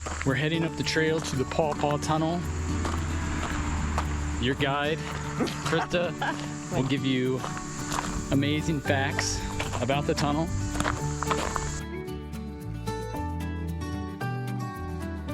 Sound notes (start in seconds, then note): 5.0 laughs; 14.3 gentle music